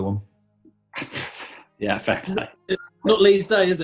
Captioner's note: splutters